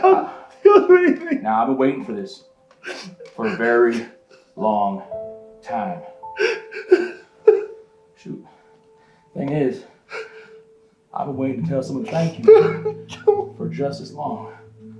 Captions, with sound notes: I'll do anything. - Now I've been waiting for this for a very long time. (sobs) Shoot. The things is, I've been waiting to tell someone thank you - Don't kill me! - for just as long.